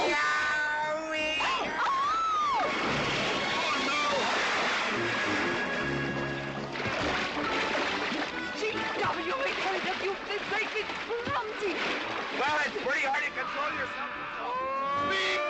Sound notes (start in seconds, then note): 0.3 mclintock screaming; 1.4 screaming